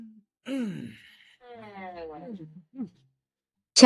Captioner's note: hắng giọng